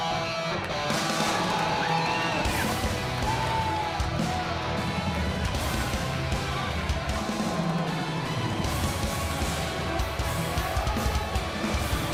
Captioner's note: crowd cheering